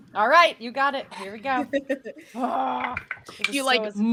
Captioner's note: laughing